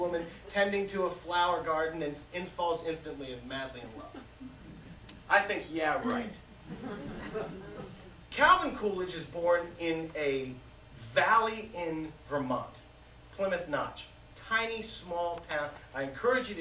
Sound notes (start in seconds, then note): 6.6 laughter